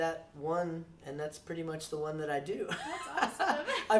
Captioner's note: laughs